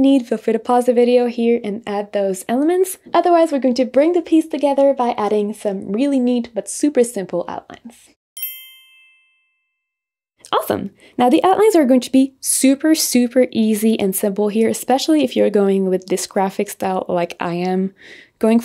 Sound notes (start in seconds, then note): 8.4 bells dinging